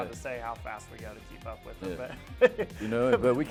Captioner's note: laughing